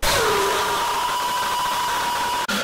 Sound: screaming bloody murder

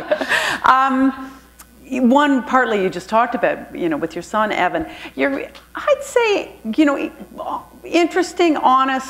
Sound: laughter

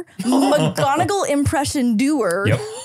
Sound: laughing

